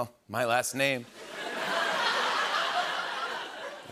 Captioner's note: laughter